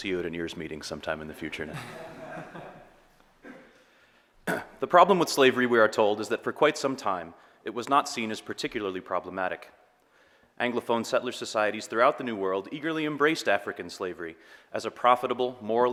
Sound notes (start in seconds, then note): 3.7 audience laughing